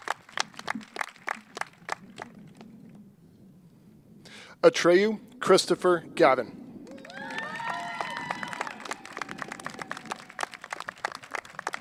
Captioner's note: cheers and applause